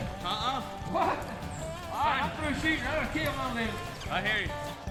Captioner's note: muffled yelling